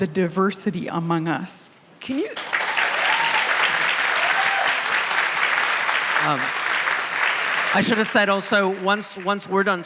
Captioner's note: applause